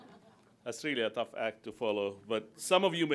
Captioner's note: laughter